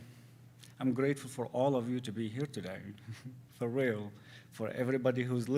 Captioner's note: giggles